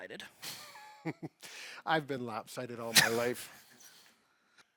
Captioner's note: chuckles